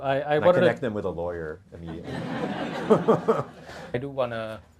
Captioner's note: audience laughter